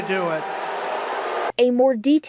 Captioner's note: crowd booing